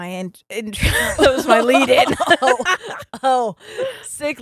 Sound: both laughing

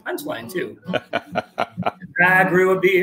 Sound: laughing

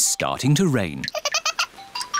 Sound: giggles

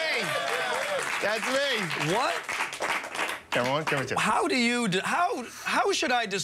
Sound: laughter

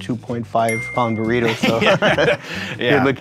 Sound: all laugh

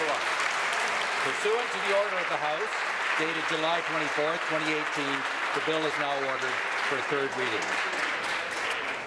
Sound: applause

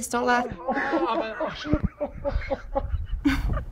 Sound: laughter off screen; man groans in pain; slight giggle

